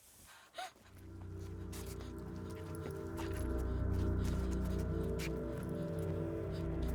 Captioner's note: Abby gasps; ominous music